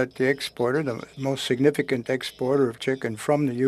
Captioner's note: speaking French